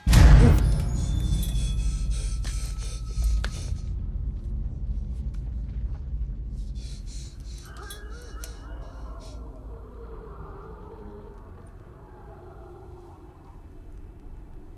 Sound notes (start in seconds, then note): 0.5 suspenseful music; 7.6 eerie moaning in distance